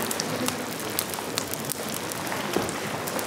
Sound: hissing noises

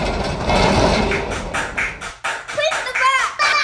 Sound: clapping

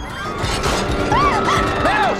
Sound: gasps, screams

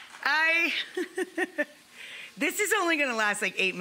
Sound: chuckling

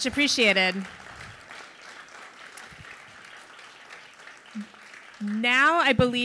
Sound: audience applauding

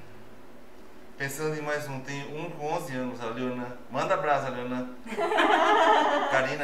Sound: laughs

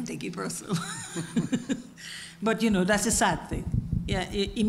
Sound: laugh

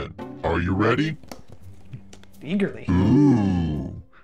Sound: fingers tapping

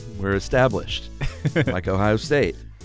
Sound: chuckles

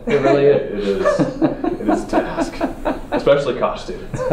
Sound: laugh

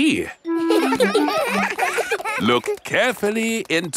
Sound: children laughing; laughs

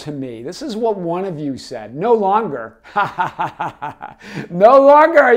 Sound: laughs

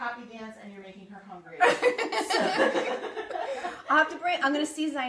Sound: laughs

